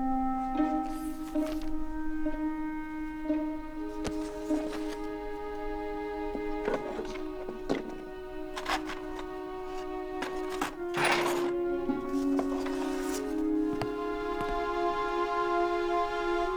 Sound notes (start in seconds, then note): 10.9 clutter rattling